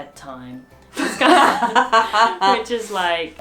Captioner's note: laughs